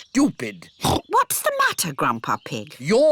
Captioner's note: oinks